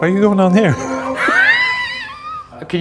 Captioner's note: laugh